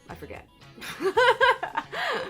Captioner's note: laughs